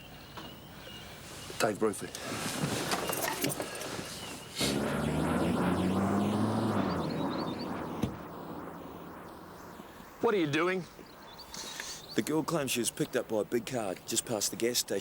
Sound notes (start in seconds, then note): 4.5 car engine rumbling